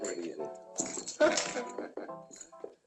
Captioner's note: giggles